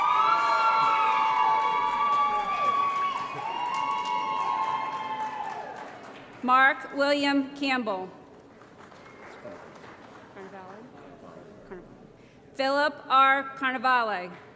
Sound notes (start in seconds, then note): 0.0 applause & Cheering; 8.3 applause